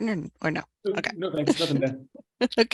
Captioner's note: chuckles